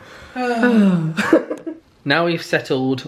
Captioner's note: both sigh